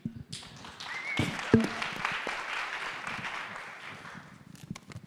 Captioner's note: audience applauding